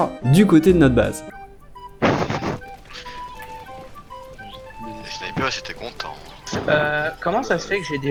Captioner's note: chatting